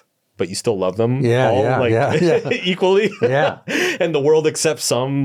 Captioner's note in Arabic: يضحك